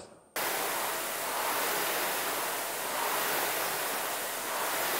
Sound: rowing machine whirring

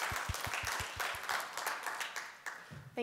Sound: applause

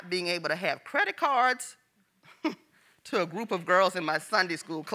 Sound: chuckles

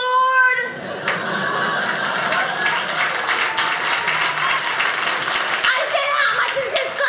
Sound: audience applauding

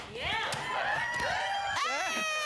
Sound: cheering

